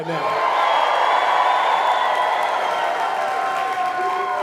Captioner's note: audience cheers